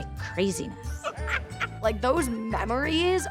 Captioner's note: laughing